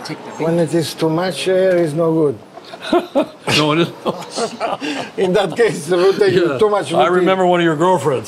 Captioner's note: both laugh